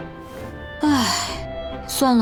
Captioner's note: sigh